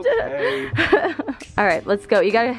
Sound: laughs

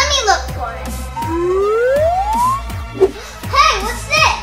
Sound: comical tooting

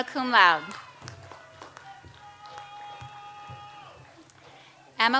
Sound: audience applauds

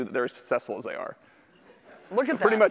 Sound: audience laughter

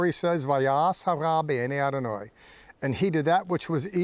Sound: speaking in Hebrew

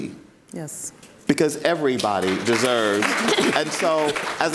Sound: audience applauds

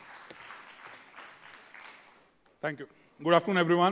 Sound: applause

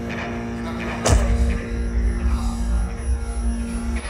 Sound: punch thuds

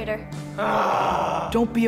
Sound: moaning

